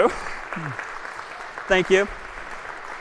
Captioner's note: applause